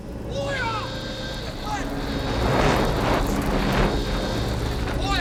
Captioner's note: alarm sounding